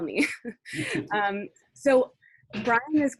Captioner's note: both giggles